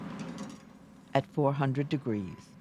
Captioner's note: voiceover